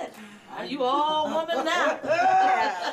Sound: laughing

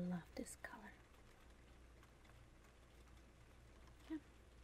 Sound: rain sounds

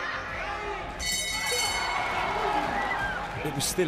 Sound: crowd cheers; bell rings

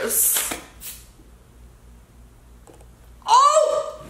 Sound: spraying

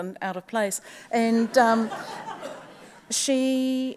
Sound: audience laughs

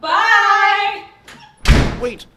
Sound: door squeaks; slam

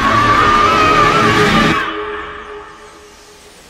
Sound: screaming; birds chirping

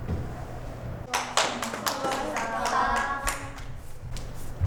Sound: students’ applaud

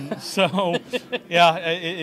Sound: laughs

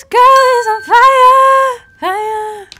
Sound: ding

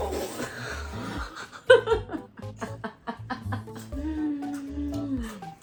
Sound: laughs ♡

